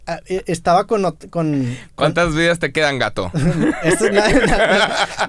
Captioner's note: laughs